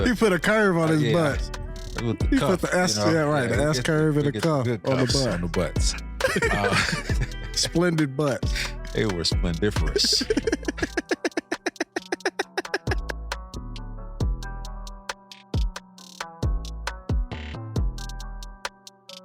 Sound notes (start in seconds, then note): 9.8 laughing; 12.4 hip hop upbeat music